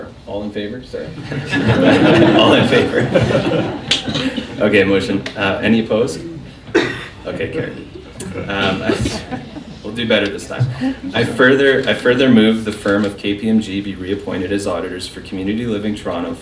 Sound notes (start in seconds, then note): 1.1 laughing